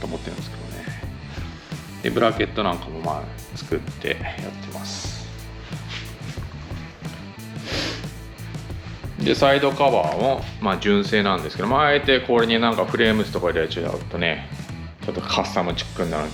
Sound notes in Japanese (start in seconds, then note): 7.8 鼻息